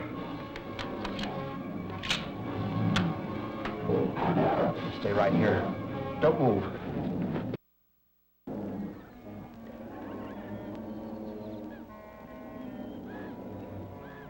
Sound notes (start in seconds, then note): 0.2 gun clicking; 8.5 animals bellowing; 8.6 mysterious music